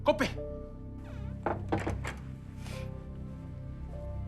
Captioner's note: door shuts, victoria sniffles; sombre music